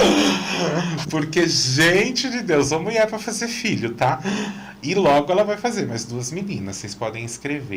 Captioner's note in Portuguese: risadas